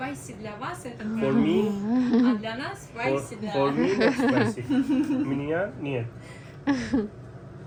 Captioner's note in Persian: خنده